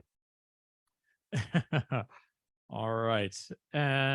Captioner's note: laughing